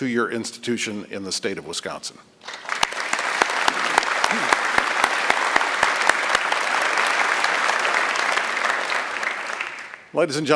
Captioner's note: applause